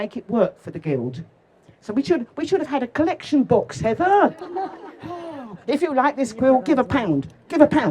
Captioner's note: laughter